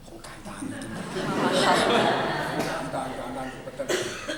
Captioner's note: Cantonese; laughter; Mandarin